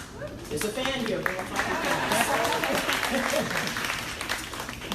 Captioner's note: crowd applauding drowns out speaker; laughs